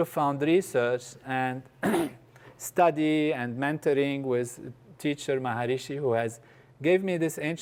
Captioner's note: cough